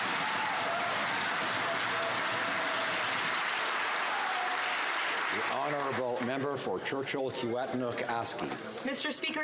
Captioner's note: some Applause